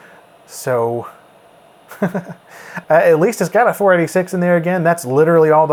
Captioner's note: laughs